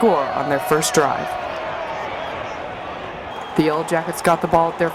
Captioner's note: crowd cheering